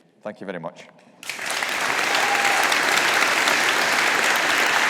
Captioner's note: all applauding